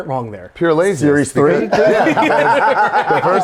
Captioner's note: Zack and Jim laugh